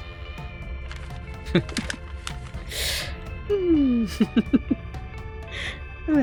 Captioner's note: happy noises, giggling